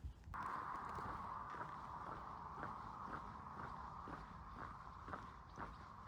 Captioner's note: traffic noise and footsteps